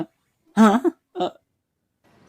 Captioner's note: Fuu2 gasps